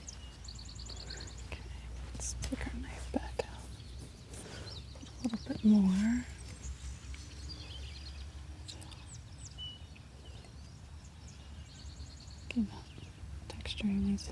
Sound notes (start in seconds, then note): 6.1 birds chirping